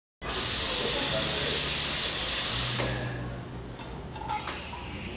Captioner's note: coffee machine sizzling